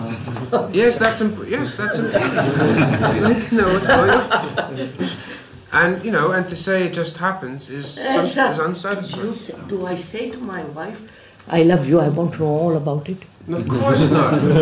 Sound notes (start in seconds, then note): 0.0 laughter; 1.8 laughs